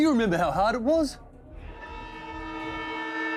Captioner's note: hooter blares